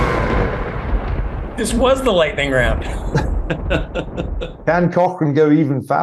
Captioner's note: laugh